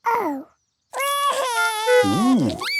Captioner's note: cries